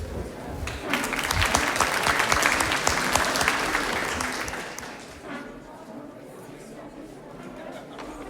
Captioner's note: applause